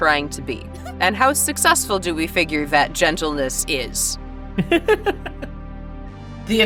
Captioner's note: chuckles